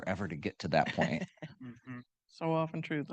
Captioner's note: laughing